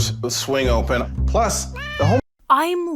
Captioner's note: cat meows